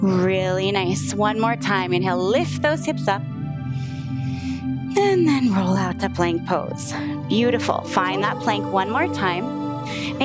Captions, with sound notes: Really nice, one more time, inhale, lift those hips up. (inhales) And then roll out to plank pose. Beautiful, find that plank one more time.